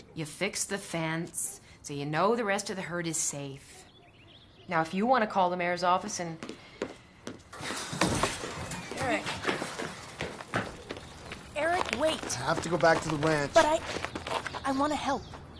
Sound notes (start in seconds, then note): none